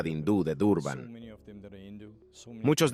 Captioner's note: Hablando idioma extranjero